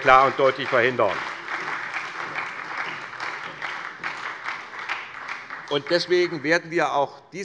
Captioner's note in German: Beifall bei der SPD